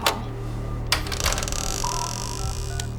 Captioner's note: door creaking; phone beeping